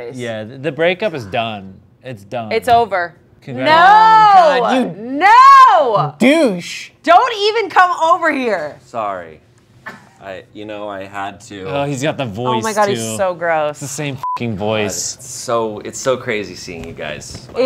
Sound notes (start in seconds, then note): 14.2 beep